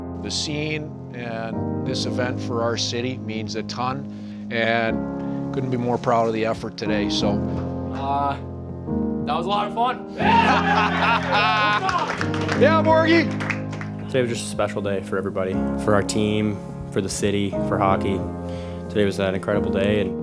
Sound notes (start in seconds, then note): 10.2 team laughing